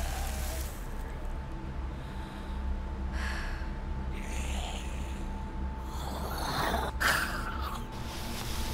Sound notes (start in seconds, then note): 4.5 snarl/growl